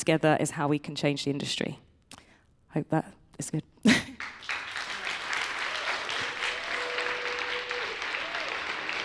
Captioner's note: applause